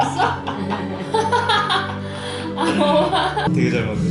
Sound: laughing

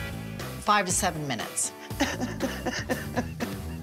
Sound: laughs

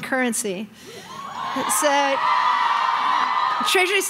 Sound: crowd cheering

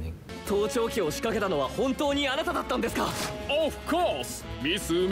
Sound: characters conversing in Japanese

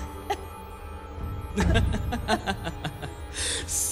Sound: minacious laughter

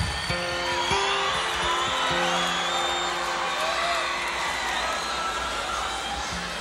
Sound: guitar strumming; audience cheering

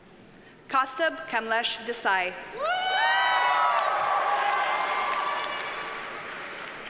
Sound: audience cheers and applauds

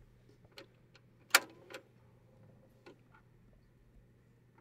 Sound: switch clicks

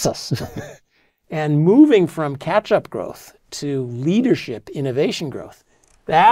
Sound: laugh

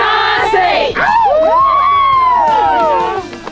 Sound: cheers, applause

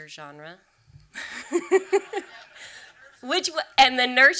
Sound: and audience laughs

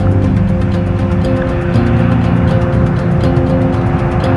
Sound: upbeat music continues; jets revving

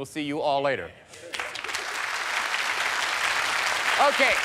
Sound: applause

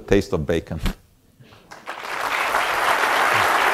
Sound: audience applause

